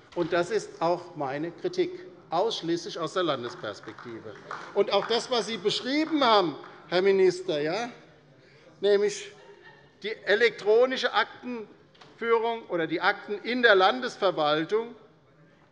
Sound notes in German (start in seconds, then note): 3.1 Beifall bei der LINKEN